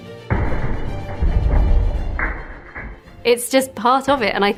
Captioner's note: hammer smashes